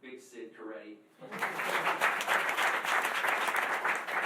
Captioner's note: applause